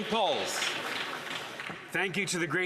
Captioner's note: some Applause